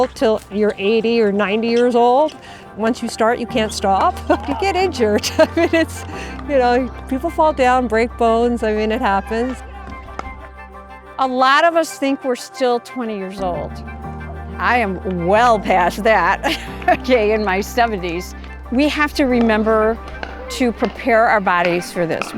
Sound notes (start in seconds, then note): 4.4 laughing